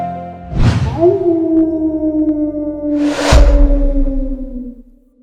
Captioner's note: coyote howling